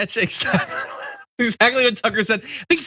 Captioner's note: laugh